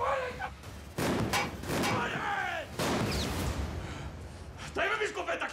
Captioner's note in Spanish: continúa la balacera